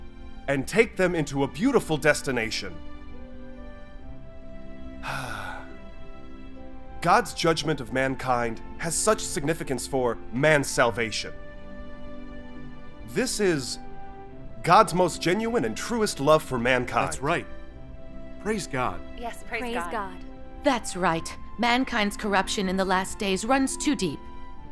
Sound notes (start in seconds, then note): 5.0 sigh